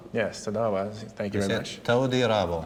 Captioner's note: speaking hebrew